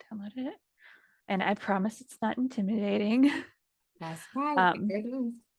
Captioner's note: chuckles